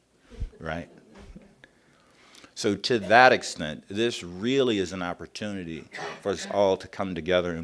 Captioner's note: chuckles around the room